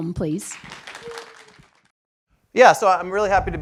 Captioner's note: applause